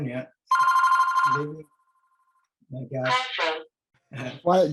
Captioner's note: phone rings